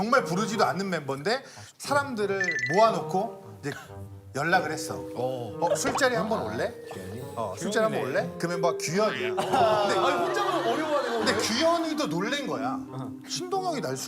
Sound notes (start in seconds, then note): 6.3 one person laughing especially loudly